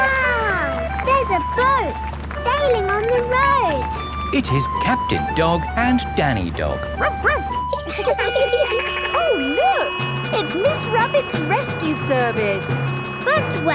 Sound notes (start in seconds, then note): 6.9 barks; 8.1 laughing; 8.1 sirens sounding